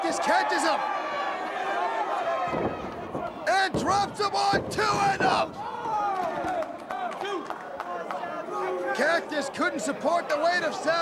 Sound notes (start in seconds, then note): 1.3 crowd cheering